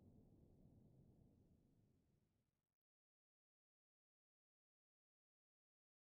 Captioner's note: silence